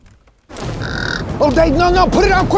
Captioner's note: fire roaring; squawks